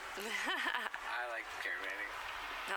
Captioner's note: laughs